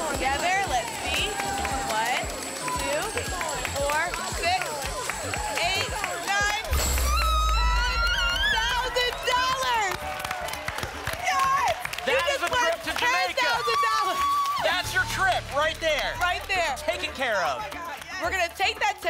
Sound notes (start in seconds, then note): 7.0 screams; 9.7 applause and cheering